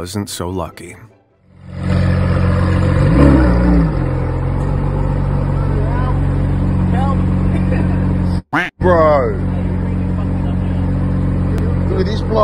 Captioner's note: engine revs